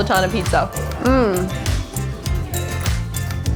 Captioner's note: moans